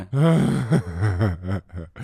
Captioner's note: laughing